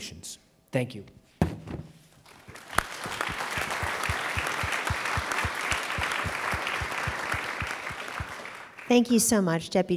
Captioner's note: applause